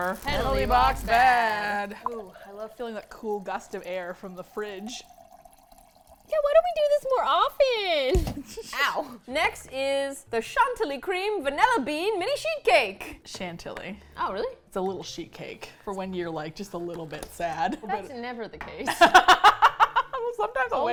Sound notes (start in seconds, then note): 7.8 laughs; 18.9 laughs